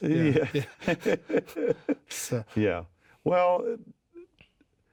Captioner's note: chuckling